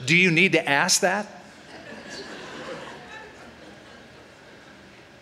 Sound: laughter

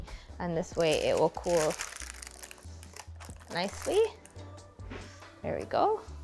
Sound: parchment paper crackling

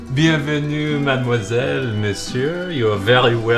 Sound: speaking French

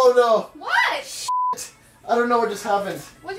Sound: beeps

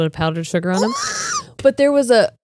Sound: squeals

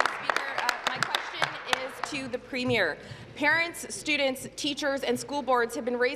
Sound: applause

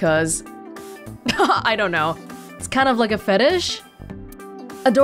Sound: chuckles

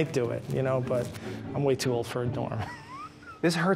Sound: laughs

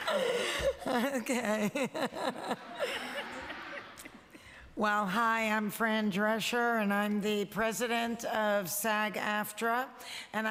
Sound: laughter

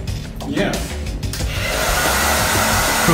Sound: hairdryer starting

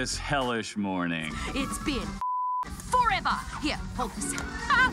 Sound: beep

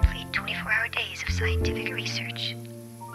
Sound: sexy female robo caller

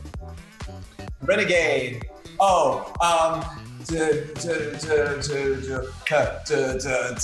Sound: hums

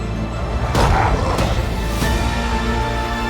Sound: creatures growling

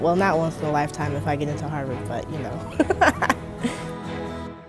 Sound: laughter

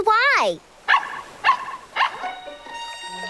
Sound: barking

